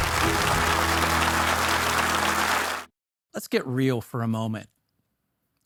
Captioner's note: audience applauding